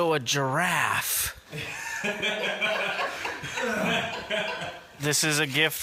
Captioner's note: laugh